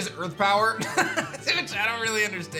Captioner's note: laughs